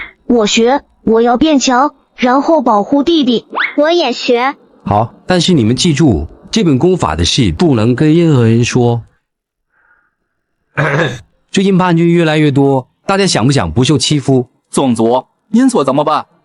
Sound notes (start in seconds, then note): 10.7 coughing